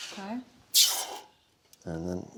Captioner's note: sizzle